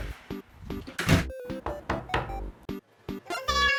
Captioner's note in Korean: 똑똑똑